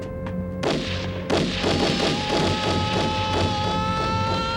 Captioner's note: gun fire